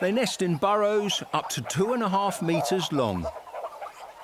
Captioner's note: birds chitter